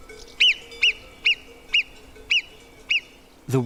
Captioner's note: squeaky calls